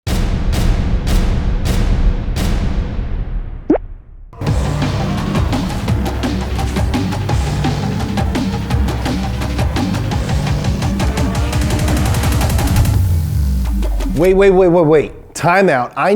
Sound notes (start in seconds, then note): 0.3 loud banging; 4.8 upbeat, thumping music